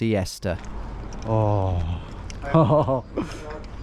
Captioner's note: chuckles